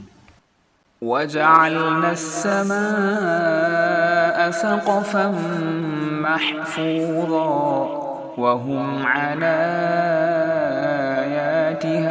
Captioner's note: Quranic Recitation in Arabic